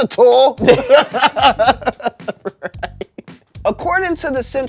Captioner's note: everyone laughs